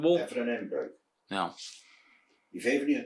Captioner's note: Father speaking in Urker dialect